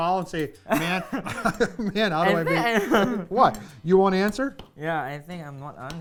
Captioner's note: laughing